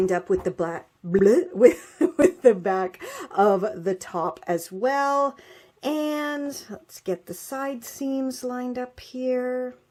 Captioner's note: bloop!